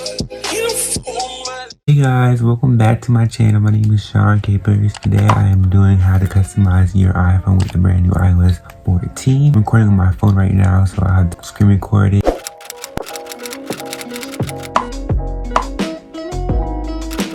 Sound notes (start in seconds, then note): 12.3 typewriter clicking; 14.9 groovy music; 14.9 popping